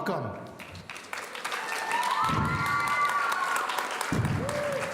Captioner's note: audience cheering